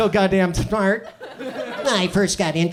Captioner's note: audience chuckles